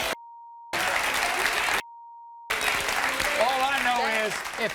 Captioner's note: beep; applause